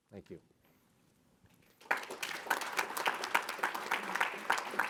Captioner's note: audience applause